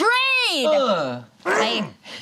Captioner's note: group grunts